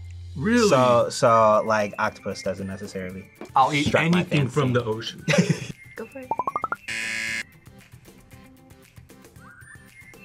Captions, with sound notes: - Really? - So, octopus doesn't necessarily strike my fancy. - I'll eat anything from the ocean. - (laughs) - Go for it. (buzzer)